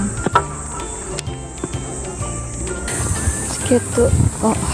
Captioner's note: laughs